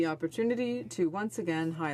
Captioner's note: speaking French